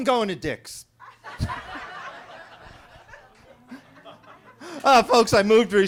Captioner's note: attendees laughing